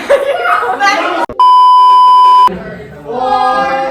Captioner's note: chuckles; beep sound effect